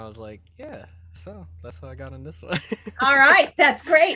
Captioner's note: laughs